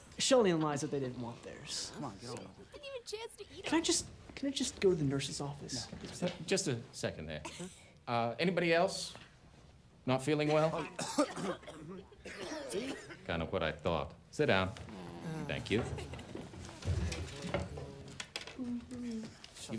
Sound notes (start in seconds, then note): 10.4 students coughing; 14.8 students groan